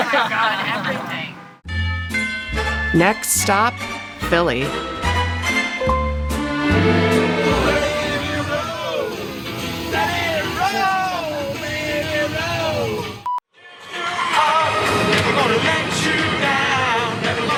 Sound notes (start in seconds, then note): 2.6 upbeat music; 13.5 beeping